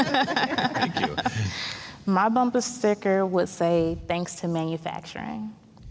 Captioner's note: all laughing